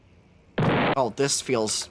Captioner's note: explosion sfx